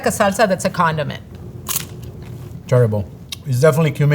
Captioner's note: mouth crunching